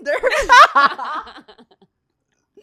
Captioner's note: laughs